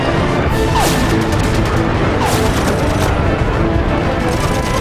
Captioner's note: guns firing